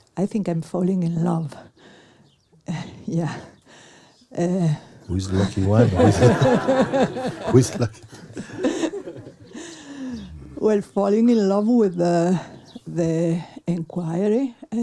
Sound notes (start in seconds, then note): 9.5 laughter